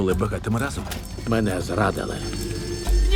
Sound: alarm ringing

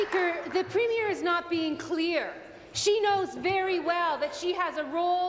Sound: applause

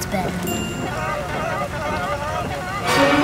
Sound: chattering

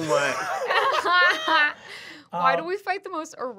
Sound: laughing

